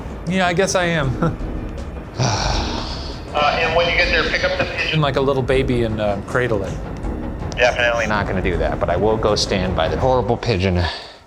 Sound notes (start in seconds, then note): 2.4 sighing loudly